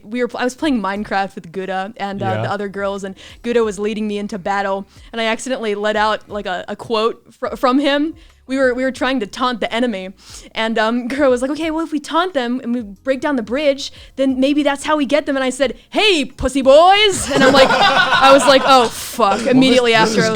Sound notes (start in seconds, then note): 17.1 laughs